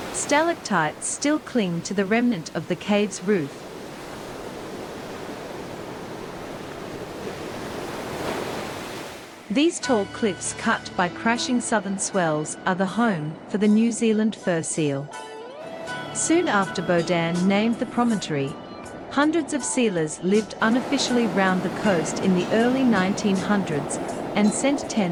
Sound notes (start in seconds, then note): 0.0 waves; 3.7 crashing waves